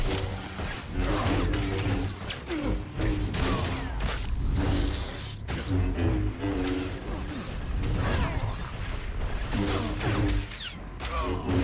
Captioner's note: gunfire